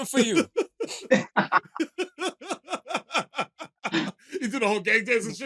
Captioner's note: laughter